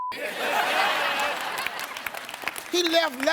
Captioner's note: audience laughs